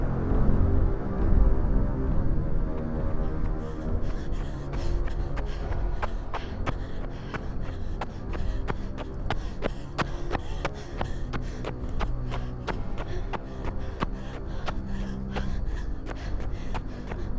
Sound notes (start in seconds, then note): 3.7 shoes clacking; 3.7 woman panting